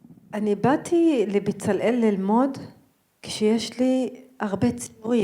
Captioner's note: speaking in foreign language